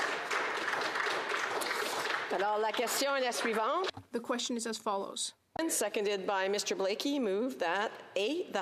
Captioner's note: applause